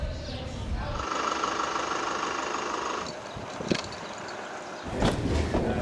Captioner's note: car engine rumbles